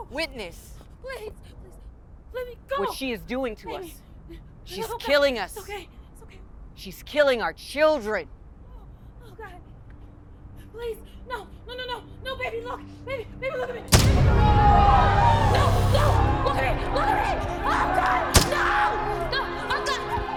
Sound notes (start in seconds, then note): 13.9 popping; 13.9 crowd yelling; 18.3 popping